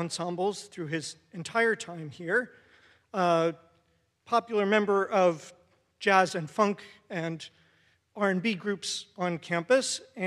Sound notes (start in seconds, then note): none